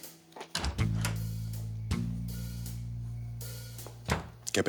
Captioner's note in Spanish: Ruido al abrir